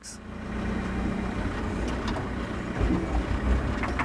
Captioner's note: engine rumbles